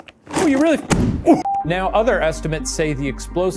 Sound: bucket booms

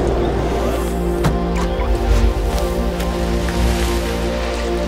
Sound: car door closes

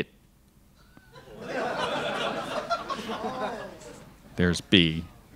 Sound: crowd laughs

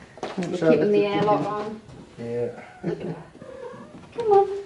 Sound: laughs

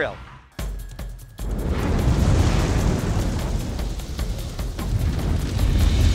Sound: intense music; flames whooshing; intense music

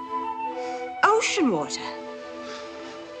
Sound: gasps

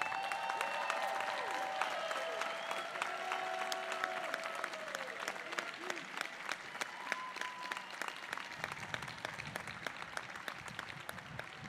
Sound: applause and cheers

